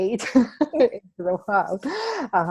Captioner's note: laughing